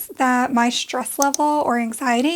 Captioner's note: click